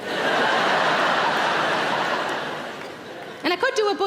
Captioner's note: audience laughing